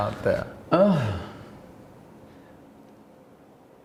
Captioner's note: sighing